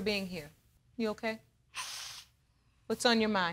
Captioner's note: sniffles